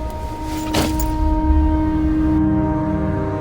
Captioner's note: bag thuds